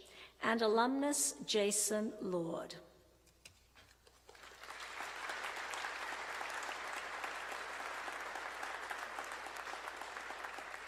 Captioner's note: applause